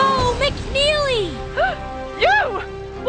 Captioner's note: gasp